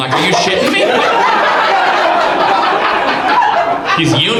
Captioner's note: audience laughs